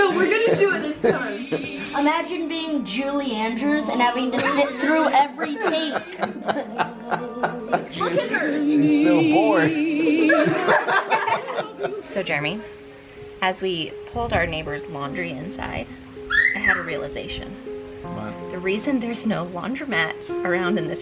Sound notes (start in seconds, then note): 5.3 laughing; 10.2 all laugh